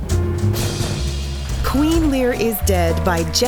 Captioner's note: drumroll; applause